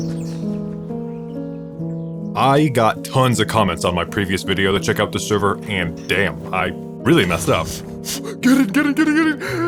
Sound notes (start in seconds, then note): 7.9 blowing; 9.4 deep breathe